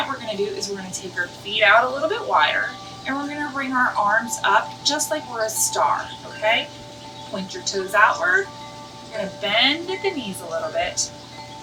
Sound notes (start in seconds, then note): 0.3 calming ambient music; 3.3 bird chirps; 5.9 bird chirps; 8.9 calming ambient music